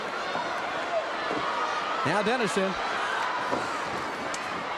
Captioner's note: crowd cheering